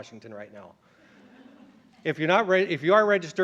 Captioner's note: laughter